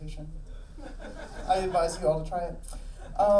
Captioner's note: audience laughing